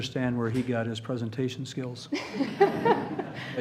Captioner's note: laughter